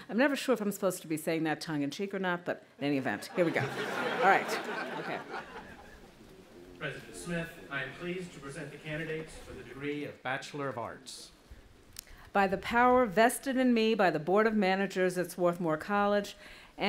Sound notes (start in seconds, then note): 3.2 audience laughing